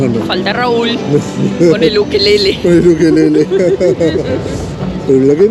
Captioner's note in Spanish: risas